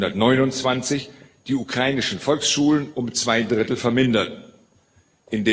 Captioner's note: Ukrainian